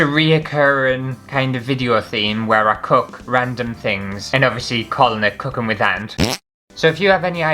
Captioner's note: fart